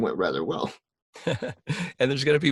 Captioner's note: laughs